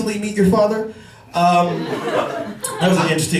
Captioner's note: laughter